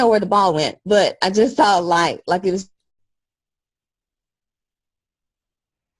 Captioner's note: audio cuts out